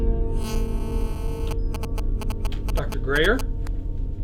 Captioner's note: buzzing